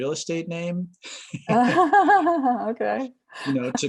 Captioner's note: laughs